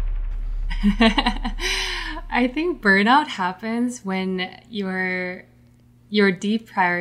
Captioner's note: laughs